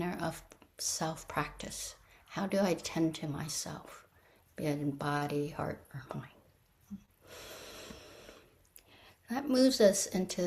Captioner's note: breathes deeply